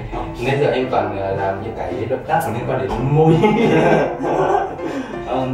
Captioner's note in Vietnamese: cười sung sướng